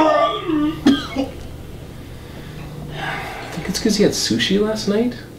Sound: vomiting noises from the other room

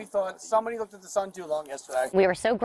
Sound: body cam sound

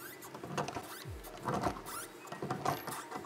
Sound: thumping

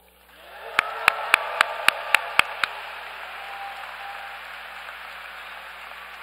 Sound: applause

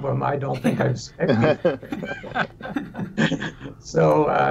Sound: all laugh

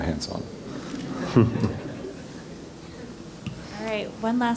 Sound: laugh

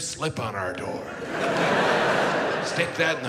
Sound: audience laughs

